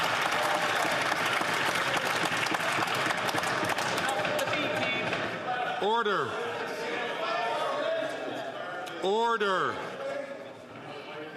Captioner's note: some Applause